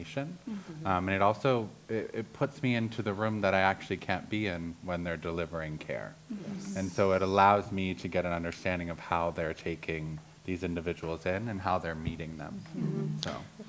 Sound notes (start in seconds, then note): 6.3 others agreeing